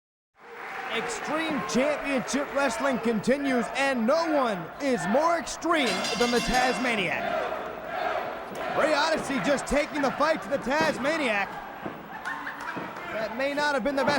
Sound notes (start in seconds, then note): 0.0 crowd chatter; 7.4 bell ringing